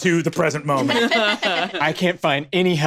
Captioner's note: laughs